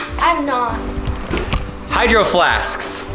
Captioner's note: mumbles